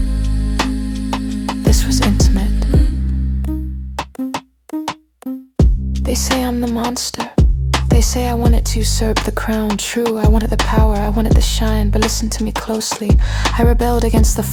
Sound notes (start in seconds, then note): 5.6 thump-thump... Thump-thump